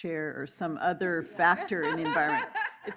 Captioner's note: laughing